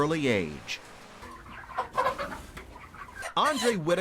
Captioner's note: chickens clucking